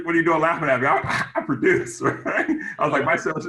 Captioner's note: laughs